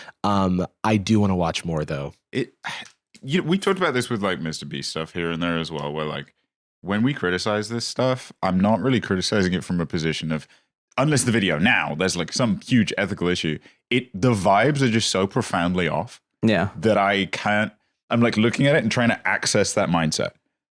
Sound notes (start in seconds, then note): 2.6 sighs